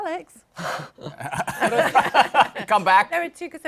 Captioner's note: laughter